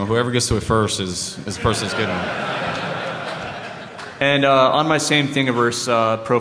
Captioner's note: laughter